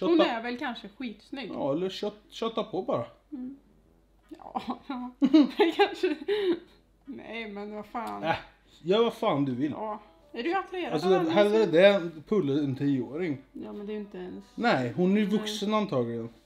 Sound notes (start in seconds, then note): 4.5 laugh